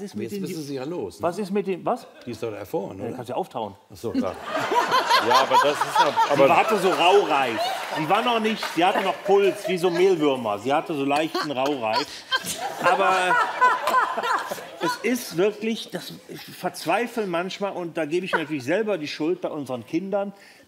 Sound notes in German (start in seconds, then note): 4.3 Lachen